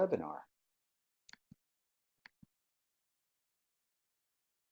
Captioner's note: mouse clicking